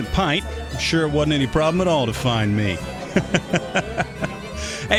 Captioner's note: laughs